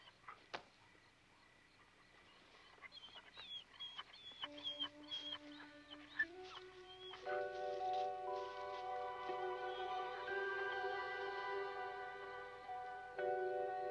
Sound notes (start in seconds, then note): 3.8 dog whimpering; 7.8 melancholy music